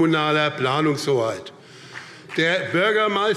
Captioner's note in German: Vereinzelter Beifall BÜNDNIS 90/DIE GRÜNEN und CDU